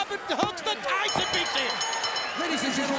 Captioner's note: bell ringing